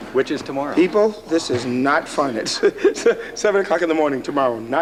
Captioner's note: laughs